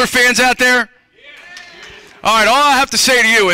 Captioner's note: cheering